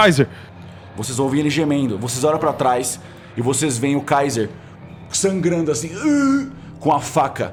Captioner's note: moan